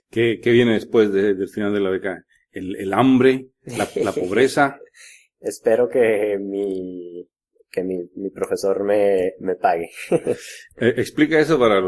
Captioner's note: laughs; nervous laughs